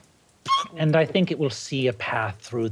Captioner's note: shrieks